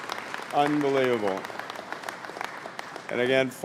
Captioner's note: applause